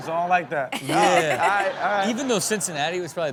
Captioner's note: audience laughs